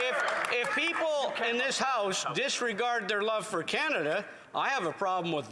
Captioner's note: some Applause